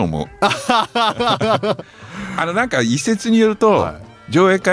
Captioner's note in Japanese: 笑い